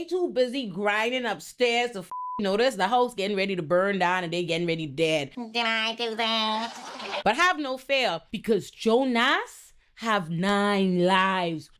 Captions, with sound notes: too busy grinding upstairs to (beep) notice the house getting ready to burn down and they getting ready dead. (audience applauding) But have no fear because Jonas have nine lives.